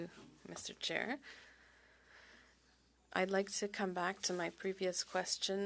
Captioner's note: speaking French